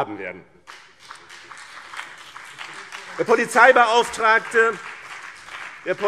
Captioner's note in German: Beifall BÜNDNIS 90/DIE GRÜNEN und CDU